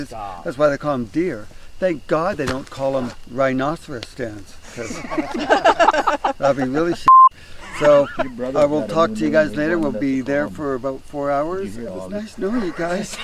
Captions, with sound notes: That's why they call 'em deer. Thank God they don't call 'em rhinoceros stands, 'cause (everyone laughing) that would be really (beep). So, I will talk to you guys later. We'll be there for about four hours. It's nice knowing you guys.